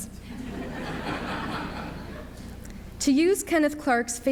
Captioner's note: audience laughs